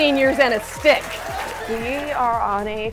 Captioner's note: crowd cheering